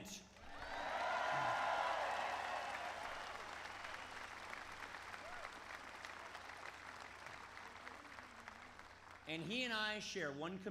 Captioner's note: applause